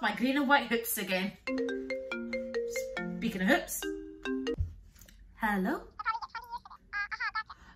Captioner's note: phone Rings